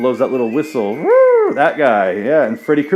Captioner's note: whistle noise